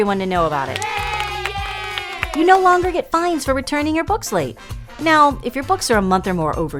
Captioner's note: cheering